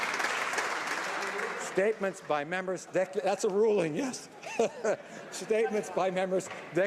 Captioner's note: applause